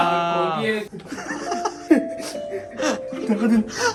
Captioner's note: crying while coming out hahahahaha